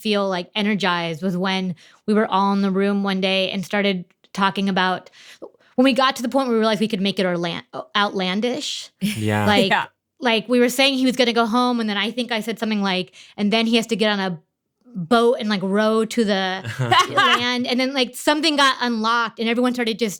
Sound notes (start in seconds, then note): 9.1 chuckles; 16.6 laugh